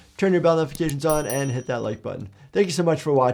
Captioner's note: bell dings